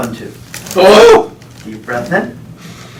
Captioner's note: grunts